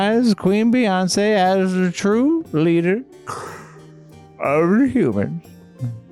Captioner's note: inhales